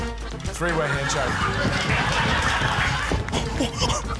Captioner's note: laughter